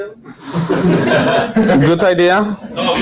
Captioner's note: audience laughing